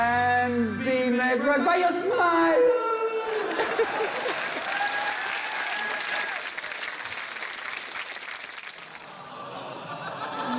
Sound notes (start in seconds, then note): 3.4 laughter; 5.1 cheering, applause